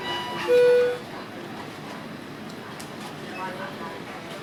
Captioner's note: machine beeping